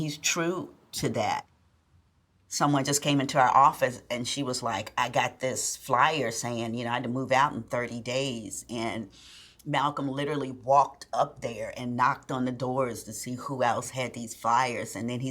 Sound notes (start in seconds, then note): none